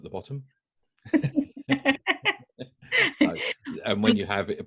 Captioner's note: both laugh